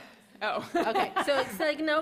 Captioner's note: laughs